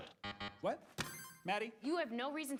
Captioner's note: buzzer buzzes; buzzer dings